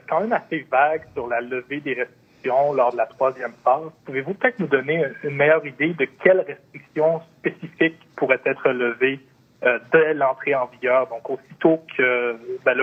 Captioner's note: speaking French